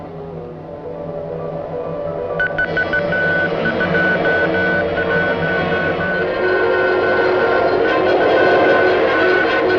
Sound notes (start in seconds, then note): 2.4 beeping